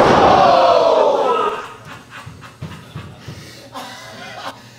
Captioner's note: laughter